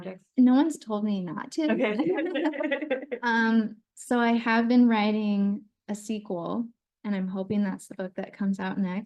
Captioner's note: laughter